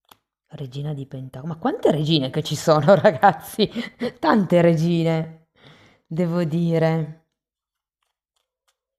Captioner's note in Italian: risate